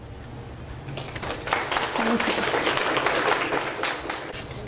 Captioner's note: audience applauds